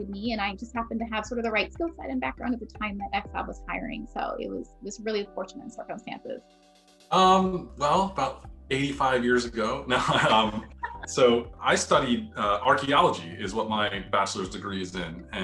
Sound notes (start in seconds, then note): 8.7 chuckles; 8.8 all laugh